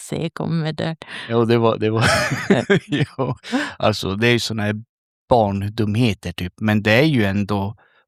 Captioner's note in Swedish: skratt